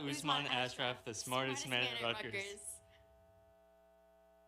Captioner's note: speaking in native language